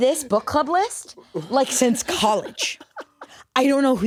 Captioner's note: laughs